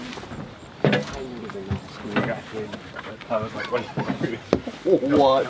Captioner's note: men muttering over each other